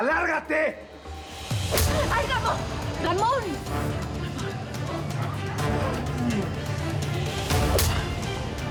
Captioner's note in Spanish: puñetazo